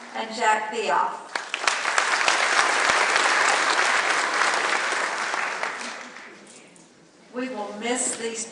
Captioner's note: clapping; clapping